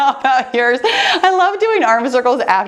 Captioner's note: laughs